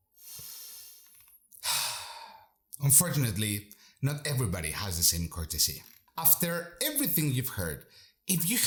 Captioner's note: sigh